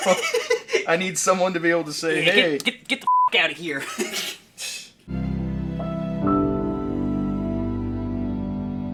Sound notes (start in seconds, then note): 0.0 laughing; 3.0 beeping; 4.5 laughing; 5.0 sad orchestra music